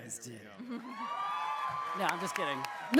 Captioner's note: cheering